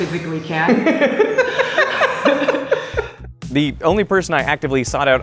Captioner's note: laughing